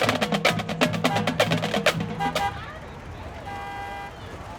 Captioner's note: horns honking